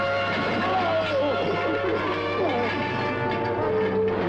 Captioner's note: grunting